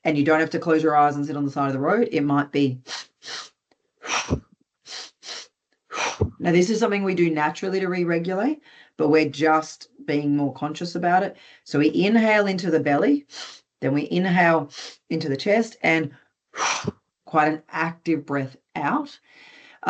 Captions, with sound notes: and you don't have to close your eyes and sit on the side of the road. It might be.... (INHALES SHARPLY) (EXHALES) (INHALES SHARPLY, EXHALES) Now, this is something we do naturally to re-regulate but we're just being more conscious about it. So we inhale into the belly, then we inhale into the chest and... (EXHALES) ...quite an active breath out.